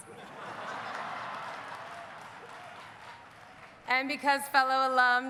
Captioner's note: audience laughing; audience cheering